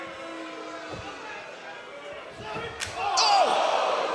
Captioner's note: crowd boos